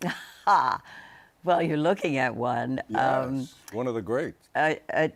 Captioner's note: laughs